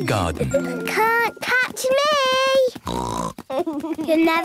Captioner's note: snort